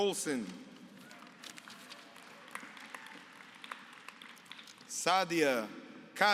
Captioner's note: applause